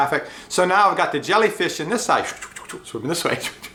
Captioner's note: makes swooshing sounnds; makes swooshing sounds; laughs